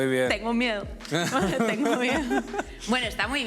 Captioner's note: laughs